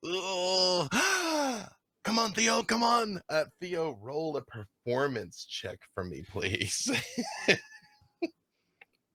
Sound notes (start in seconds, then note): 6.8 laughing